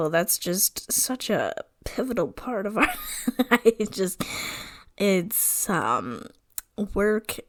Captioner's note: laughing